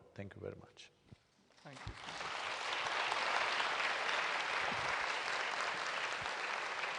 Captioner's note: applause